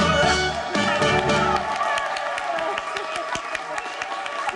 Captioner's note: audience applauding